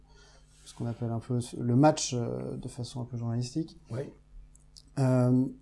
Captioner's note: french